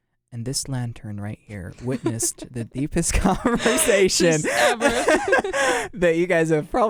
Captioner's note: both laugh